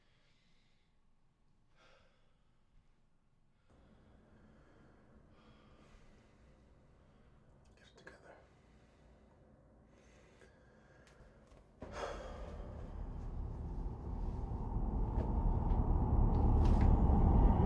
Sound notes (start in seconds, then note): 0.2 Triston breathes heavily; 11.9 Triston sighs; 14.2 tense haunting music